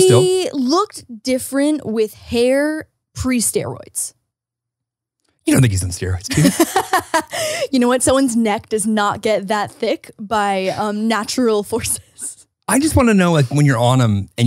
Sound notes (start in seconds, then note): 6.2 laughs